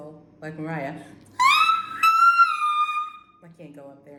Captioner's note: trying to whistle